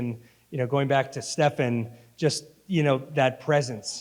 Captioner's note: none